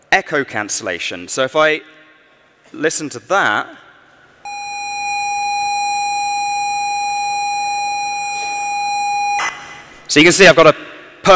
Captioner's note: continuous electronic tone